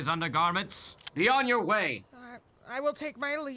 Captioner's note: rifle cocking